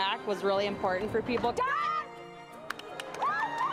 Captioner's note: loud exclamations & cheering